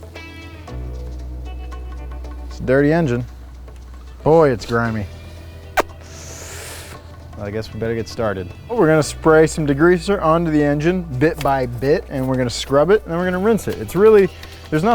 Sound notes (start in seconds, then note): 5.2 deeply inhales; 5.7 smacks lips